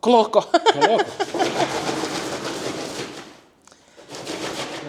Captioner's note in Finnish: naurua